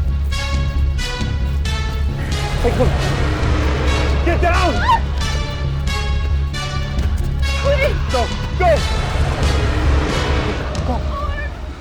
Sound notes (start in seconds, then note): 0.1 dragon growls; 2.9 dramatic music; 7.1 Guine screams